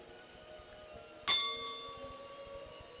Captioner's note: bell Sound